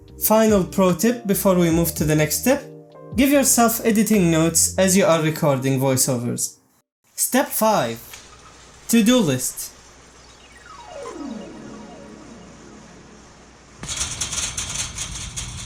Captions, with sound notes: Final pro tip before we move to the next step. Give yourself editing notes as you are recording voiceovers. *Shopping Cart Going CRAZY* *squeak*